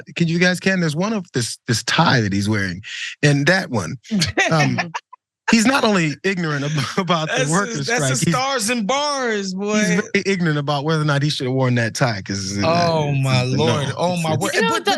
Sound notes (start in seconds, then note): 4.8 laugh